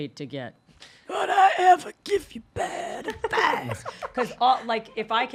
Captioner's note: rasps